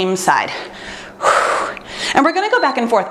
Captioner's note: exhales deeply; timer beeps